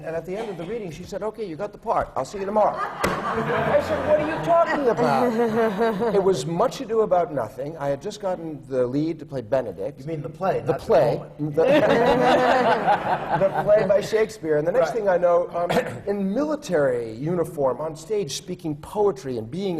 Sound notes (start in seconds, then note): 11.6 laughter